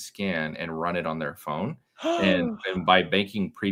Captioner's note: gasps